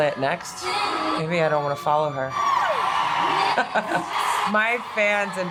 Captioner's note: laughs